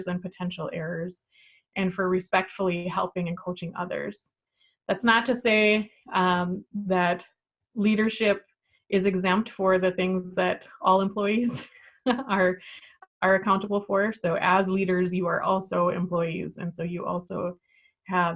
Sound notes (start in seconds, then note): 12.0 chuckles